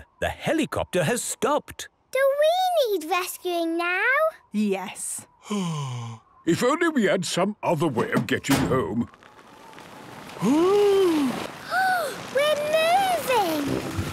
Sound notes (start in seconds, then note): 8.0 sliding; 8.5 clangs; 11.6 Peppa gasps